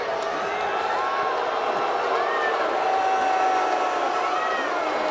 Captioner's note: crowd boos